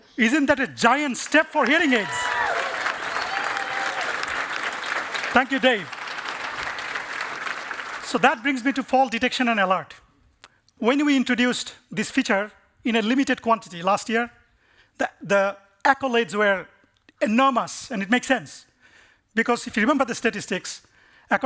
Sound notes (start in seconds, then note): 1.3 cheering and applause